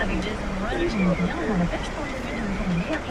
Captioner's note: indistinct chattering